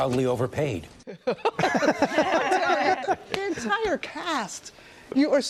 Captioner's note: laughter